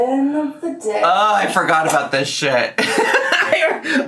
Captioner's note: laughs